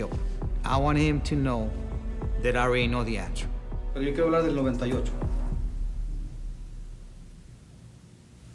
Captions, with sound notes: I wanted him to know that I already know the answer. [conversing in Spanish]